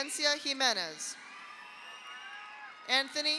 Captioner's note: audience cheers; audience applauds